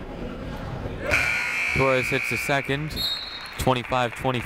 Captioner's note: whistle tweeting; buzzer ringing